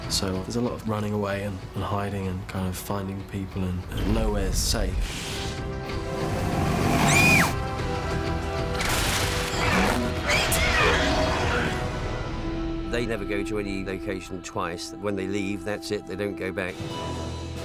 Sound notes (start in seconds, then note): 7.0 screams